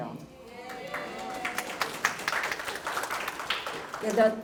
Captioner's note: cheers, applause